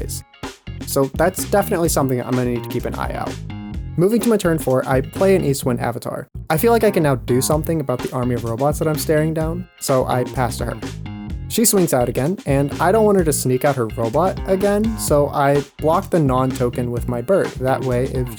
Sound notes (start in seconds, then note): none